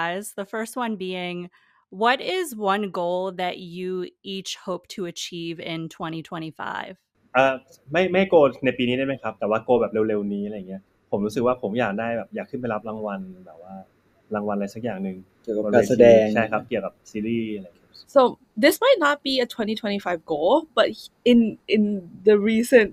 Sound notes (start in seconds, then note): 7.3 answering in Thai